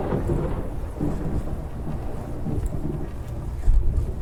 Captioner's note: heavy footsteps approach; thunderclap